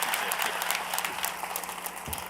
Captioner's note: applause